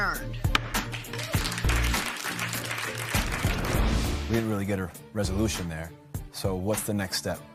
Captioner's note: light applause